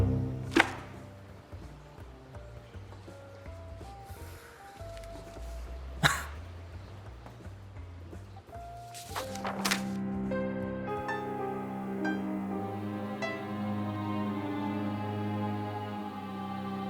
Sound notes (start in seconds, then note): 0.5 mellow music; 6.1 Byron chuckles; 9.4 foreboding music